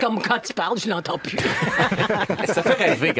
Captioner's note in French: rires